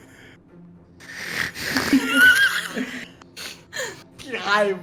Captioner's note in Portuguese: risadas